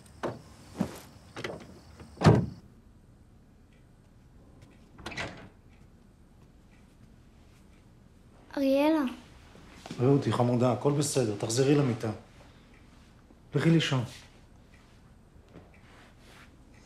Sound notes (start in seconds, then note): 4.9 door opens